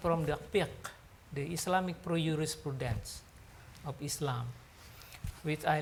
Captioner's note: speaks foreign language; speaks foreign language